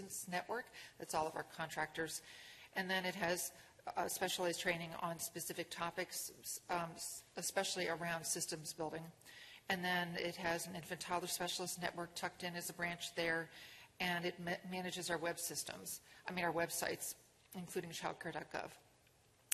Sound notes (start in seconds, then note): none